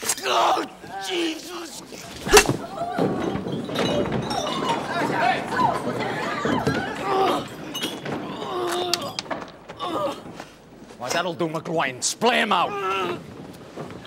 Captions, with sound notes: Oh, Jesus. (GROANING) Why, that'II do, McGIoin. SpIay him out.